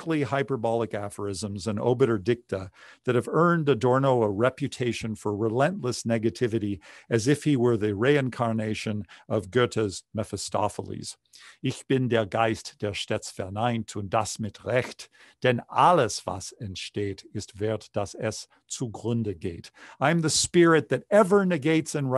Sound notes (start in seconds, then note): 11.6 speaking german